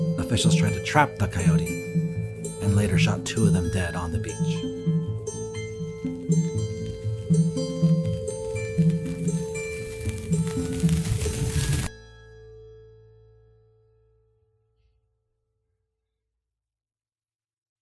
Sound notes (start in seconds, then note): 0.0 suspenseful music; 5.7 suspenseful music; 9.9 crackling